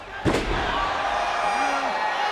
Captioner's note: body thuds